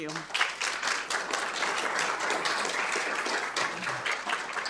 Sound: attendees applauding

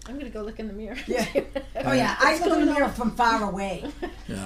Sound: voiceover

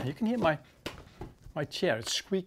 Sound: chair squeaking

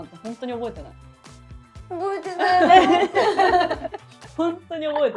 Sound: crying

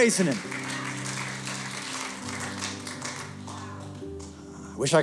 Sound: applause

